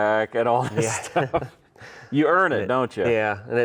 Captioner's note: both laugh